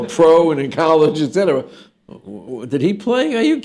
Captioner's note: laughter